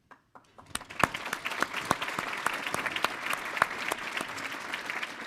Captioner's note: audience applauding